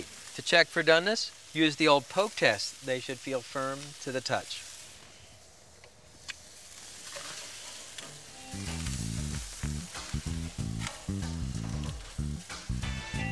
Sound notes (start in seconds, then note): 7.4 grill sizzling; 13.0 bright music; 13.0 grill sizzling